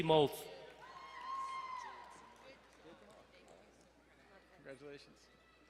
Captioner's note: crowd cheering and applauding